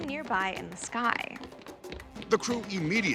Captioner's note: footsteps